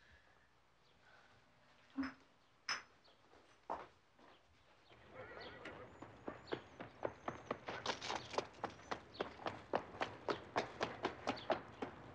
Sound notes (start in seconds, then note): 5.1 horse whinnying